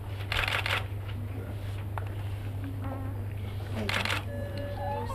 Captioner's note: cameras clicking